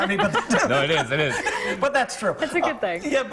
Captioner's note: laughter